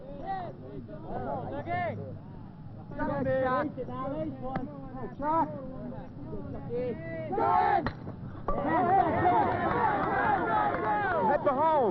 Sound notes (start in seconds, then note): 0.0 baseball-themed chattering; 8.5 yelling and cheering